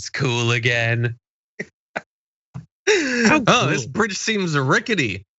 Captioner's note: laugh